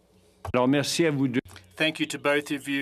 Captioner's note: speaking French